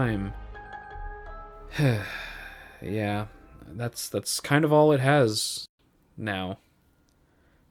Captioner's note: deep sigh